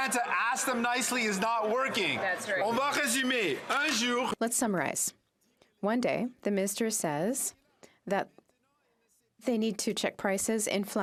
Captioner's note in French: voix de l'interprète